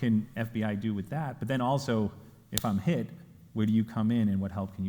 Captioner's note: smacking fist